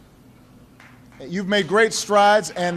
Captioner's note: applause